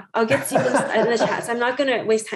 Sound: laughing

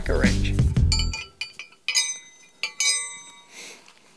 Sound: metal clangs

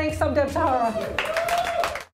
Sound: crowd cheering

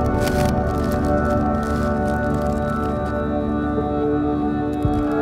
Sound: rustling

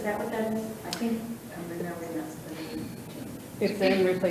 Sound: faintly speaks

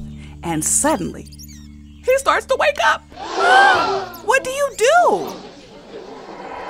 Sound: gasps

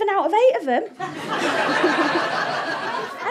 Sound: audience laughter

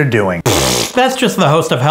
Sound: blows raspberries

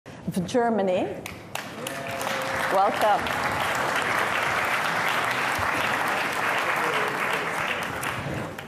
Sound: applause

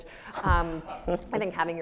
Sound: audience laughs

